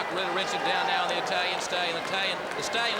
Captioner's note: crowd chatter